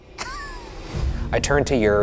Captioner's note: Ryan chuckles